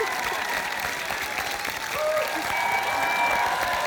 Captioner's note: cheering, applause